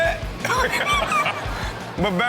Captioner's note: Sterling and audience laugh